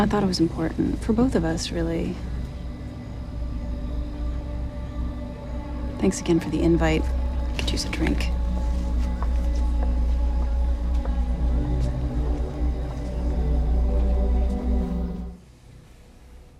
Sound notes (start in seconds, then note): 2.6 crickets chirping; 2.6 quiet dramatic music; 8.3 footsteps tapping; 9.2 quiet dramatic music